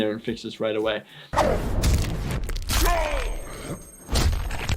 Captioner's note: bones cracking